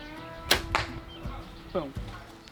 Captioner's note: lighthearted bluegrass music; bow pops